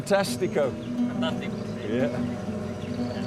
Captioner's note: speaks in foreign language